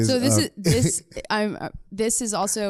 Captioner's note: laughs